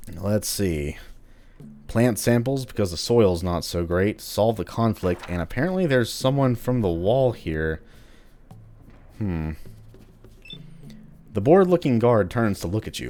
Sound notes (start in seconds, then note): 4.9 journal closes